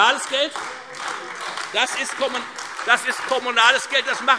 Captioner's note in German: Beifall